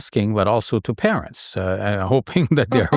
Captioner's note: laughing